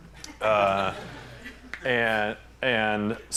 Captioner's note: laughter